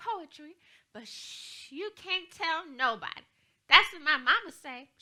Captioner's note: shushes